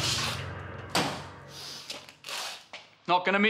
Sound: car door thunks

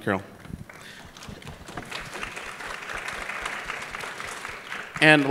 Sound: applause

